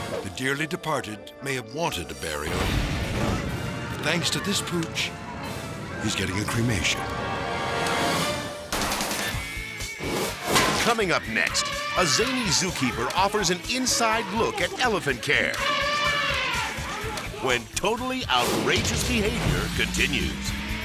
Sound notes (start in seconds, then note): 8.9 upbeat music; 11.2 elephant trumpets; 15.6 elephant trumpeting